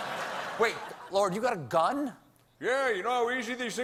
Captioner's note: laughter